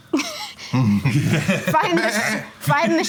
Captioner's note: group laughing